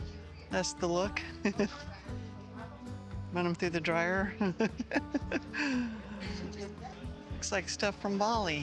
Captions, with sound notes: That's the look. run them through the dryer. [laughs] Looks like stuff from Bali.